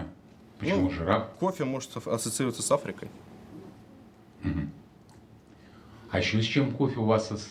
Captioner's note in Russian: откашливается